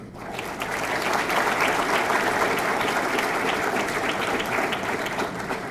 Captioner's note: audience clapping